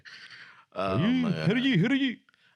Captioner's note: laughing